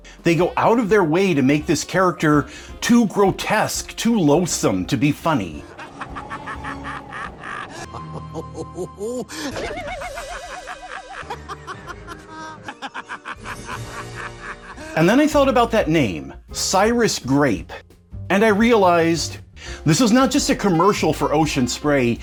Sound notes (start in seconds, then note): 5.6 laughs evilly; 7.8 chuckles cruelly; 9.5 cackles maliciously; 11.2 guffaws meanly; 12.7 chortles spitefully